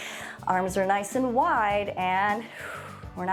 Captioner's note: exhales